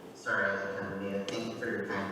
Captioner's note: speaking faintly